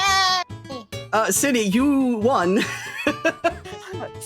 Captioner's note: laughing